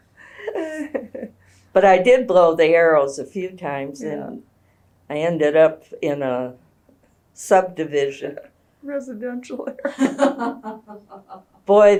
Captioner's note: laughter